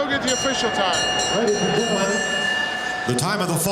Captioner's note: bell ringing